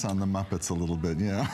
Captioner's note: laughter